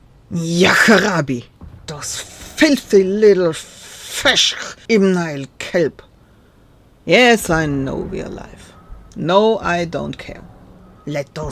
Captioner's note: cursing